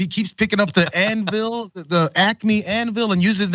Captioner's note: laugh